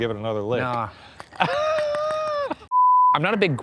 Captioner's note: laughs; screen beeps